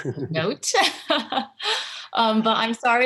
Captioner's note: laughter